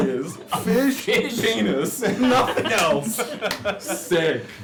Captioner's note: laughter